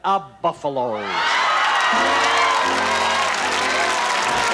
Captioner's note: audience applause